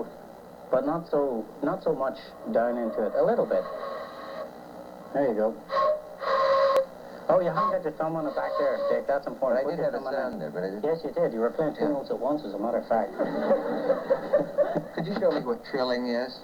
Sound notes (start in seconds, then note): 13.0 laughter